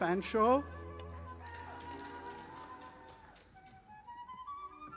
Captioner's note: audience applauding